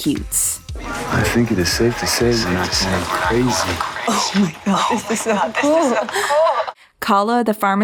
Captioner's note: his voice echoes through the phone as well; her voice echoes too